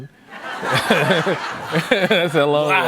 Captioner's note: laughter